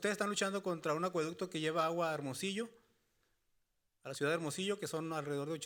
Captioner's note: speaking Spanish continues